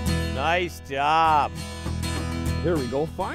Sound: voiceover

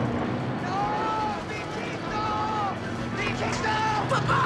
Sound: calling in spanish

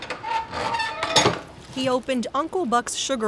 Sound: wood stove door creaking loudly

